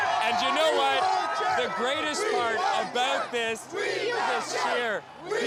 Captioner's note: cheers